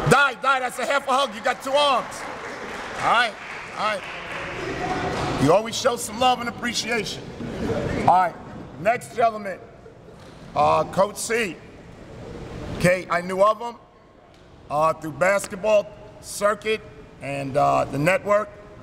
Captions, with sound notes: Di, Di, that's a half a hug, you got two arms. (chatting and light applause) Alright. Alright. (light clapping) You always show some love and appreciation. Alright, next gentleman. Coach C. Okay, I knew of him through basketball circuit and the network.